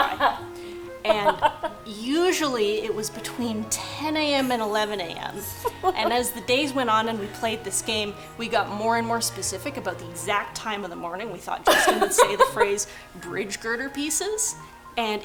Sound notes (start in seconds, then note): 1.0 laughing; 4.9 laughing